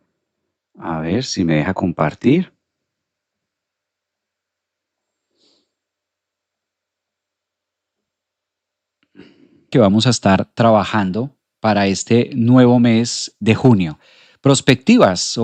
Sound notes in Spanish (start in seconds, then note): 9.1 carraspeo